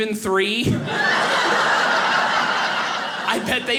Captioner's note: audience laughing